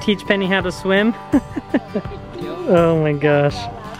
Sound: laughs

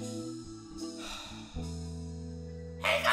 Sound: STC sighs

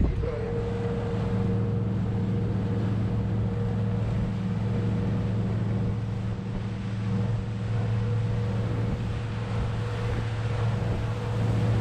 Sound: boat engine running

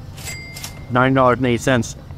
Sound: cash register dinging

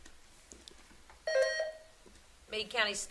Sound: buzzer sounding

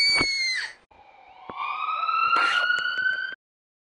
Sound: ambulance siren

